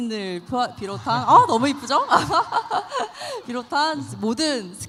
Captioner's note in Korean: 환호